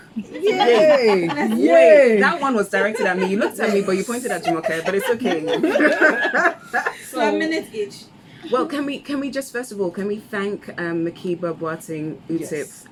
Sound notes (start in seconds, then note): 0.1 background laughter; 0.1 laughs